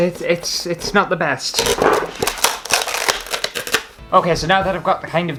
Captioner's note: foam Ripping